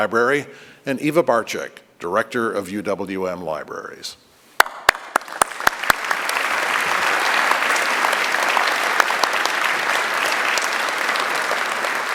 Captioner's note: applause